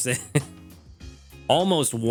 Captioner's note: laughs